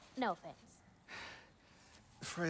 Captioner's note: none